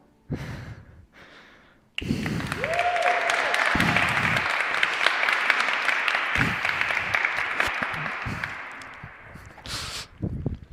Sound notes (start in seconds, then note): 2.0 applause